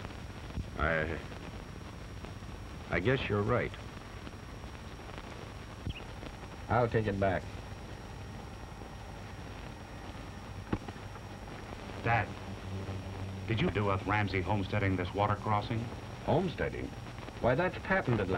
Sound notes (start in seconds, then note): none